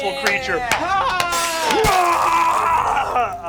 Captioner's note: they applaud